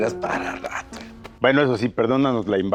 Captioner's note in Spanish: risas